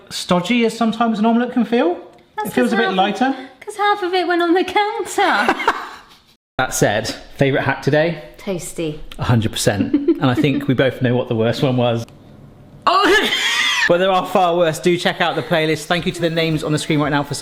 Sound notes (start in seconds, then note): 5.3 laughs; 12.9 laughs